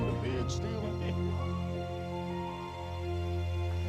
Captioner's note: laughing